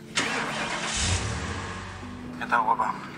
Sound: engine starting

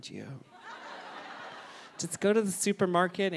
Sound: audience laughing

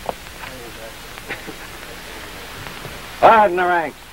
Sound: soldier speaks faintly

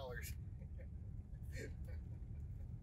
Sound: Terry laughs

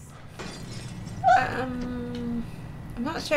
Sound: smash; strangled noise

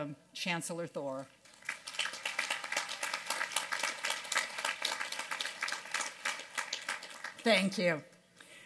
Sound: applause

